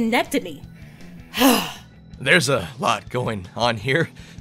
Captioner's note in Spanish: suspiro frustrado